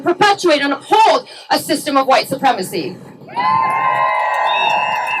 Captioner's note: cheering